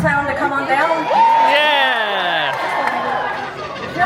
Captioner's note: guests cheering; guests chattering